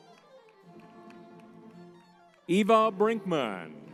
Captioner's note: crowd applauding